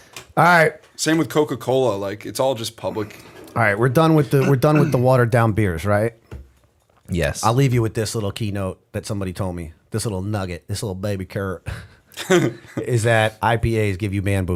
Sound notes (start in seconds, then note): 11.6 chuckle